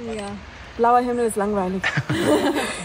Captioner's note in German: Lachen